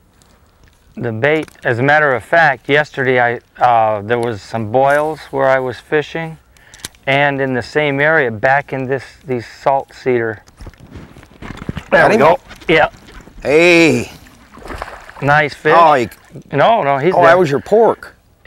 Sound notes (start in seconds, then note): 13.5 splash